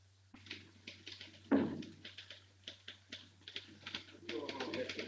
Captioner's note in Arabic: نقرات على مفاتيح الآلة الكاتبة; الناس يتحادثون